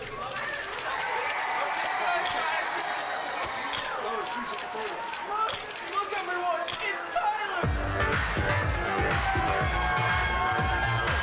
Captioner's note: crowd cheering